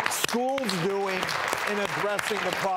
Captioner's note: audience applauding